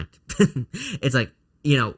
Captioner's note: chuckles